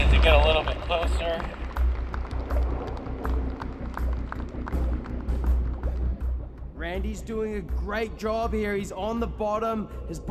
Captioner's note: applause